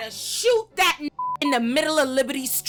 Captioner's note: beep